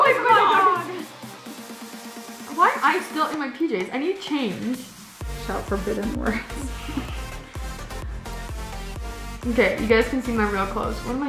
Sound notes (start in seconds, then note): 6.1 laughs